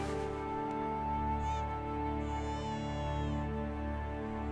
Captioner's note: baby crying